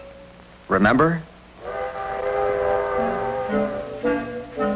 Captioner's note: train whistle